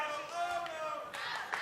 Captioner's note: fans chanting